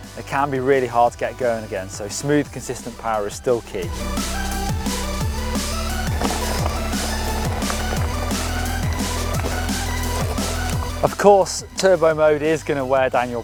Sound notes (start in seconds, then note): 4.3 upbeat music; 6.9 gravel crunching